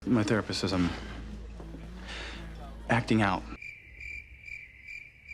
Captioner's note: crickets